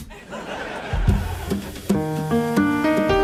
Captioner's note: audience laughs; gentle piano music